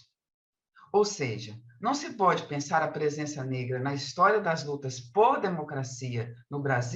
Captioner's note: continues speaking in Portuguese